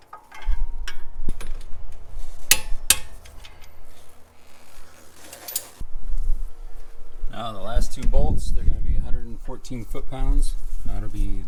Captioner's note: torque wrench clicking